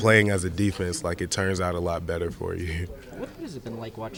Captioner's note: laughing